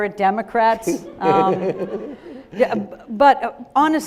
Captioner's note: audience laughing